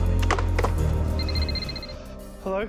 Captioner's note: phone rings